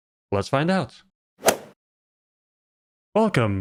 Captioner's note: golf ball hit sound